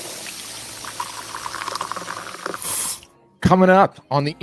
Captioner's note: coffee tap running